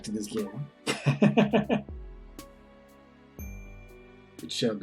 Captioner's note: chuckles